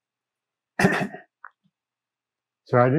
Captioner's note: clears throat